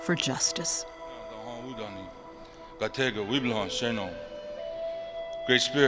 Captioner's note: man speaks in a Ponca language